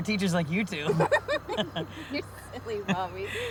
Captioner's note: group laughing